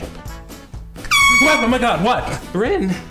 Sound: horn

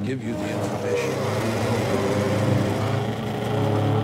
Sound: chair grating

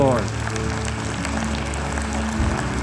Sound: applause

